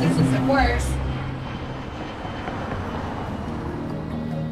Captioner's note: engine roaring; gentle music